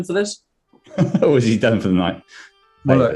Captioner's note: laughing